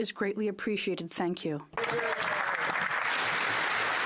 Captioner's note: speaking French